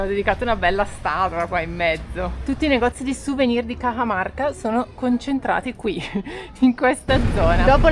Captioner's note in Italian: risate